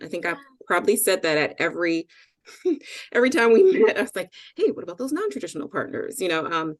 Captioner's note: chuckle